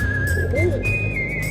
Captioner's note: owl sound